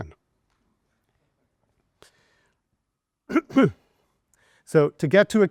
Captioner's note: student chuckling